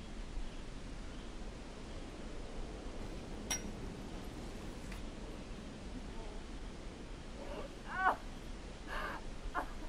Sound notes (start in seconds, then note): 3.5 glass clinking